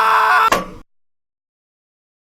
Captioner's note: sledgehammer clunk